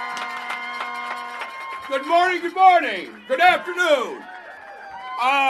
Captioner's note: applause